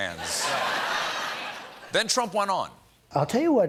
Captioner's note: laughter